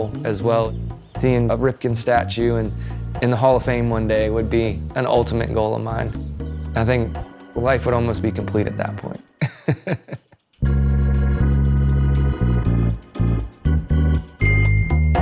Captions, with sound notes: Seeing a Ripken statue in in the Hall of Fame one day would be an ultimate goal of mine. I think life would almost be complete at that point. [chuckling] [upbeat music continues]